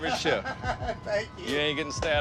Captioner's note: laughs